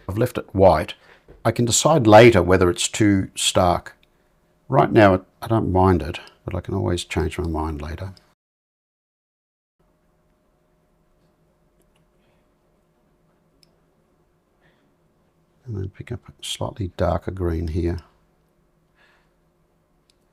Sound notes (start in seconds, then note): 9.8 silence; 19.1 silence